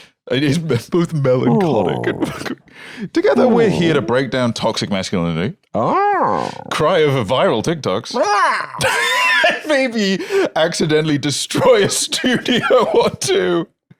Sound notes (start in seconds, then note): 5.8 continues growling; 8.2 laughing